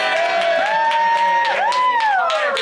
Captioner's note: cast member whooping